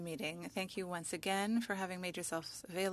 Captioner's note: speaking French